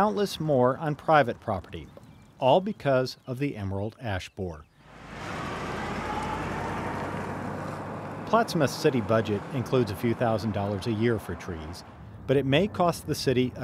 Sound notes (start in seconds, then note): 7.3 truck driving past